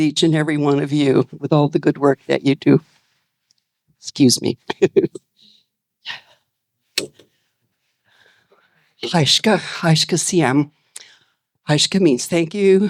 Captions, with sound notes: each and every one of you with all the good work that you do. Excuse me. (speaking in foreign language) Thank you.